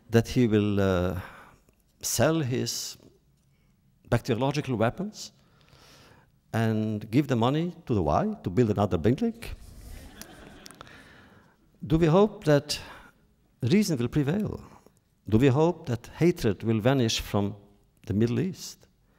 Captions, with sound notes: That he will sell his biological weapons and give the money to the Y to build another building? (laughter) Do we hope that reason will prevail? Do we hope that hatred will vanish from the Middle East?